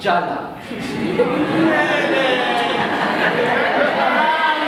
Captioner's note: scoffing